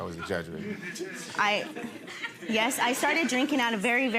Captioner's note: audience laughs